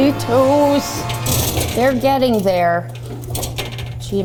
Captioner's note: shelf crashes